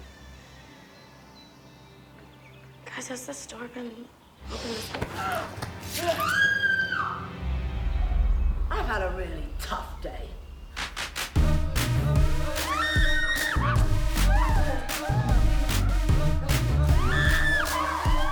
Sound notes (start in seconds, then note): 10.8 upbeat music; 12.6 all screaming; 14.4 upbeat music; 16.9 all screaming